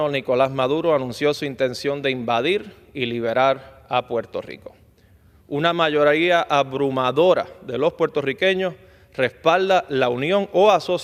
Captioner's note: speaking spanish